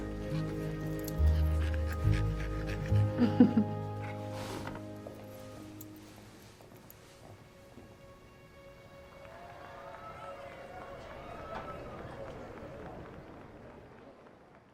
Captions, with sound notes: - Till the end of time. (dog pants) (Jackie laughs) (audience cheers)